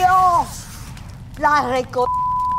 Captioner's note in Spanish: bip